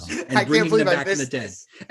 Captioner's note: laughs